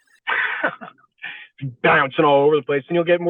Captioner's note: laughing